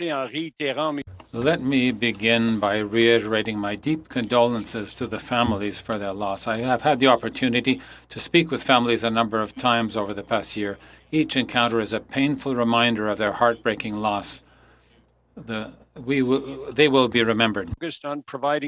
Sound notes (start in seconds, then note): 2.8 speaking French